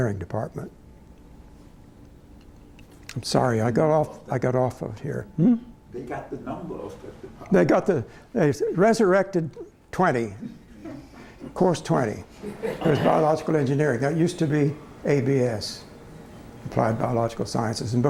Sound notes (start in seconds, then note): 12.4 laughter